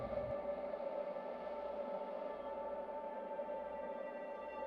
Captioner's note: wind blowing